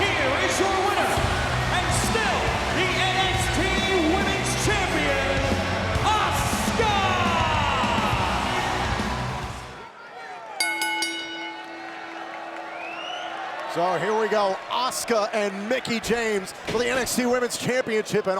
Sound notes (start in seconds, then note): 10.6 bell rings; 11.3 crowd cheers and whistles